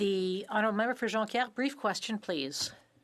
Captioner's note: speaking French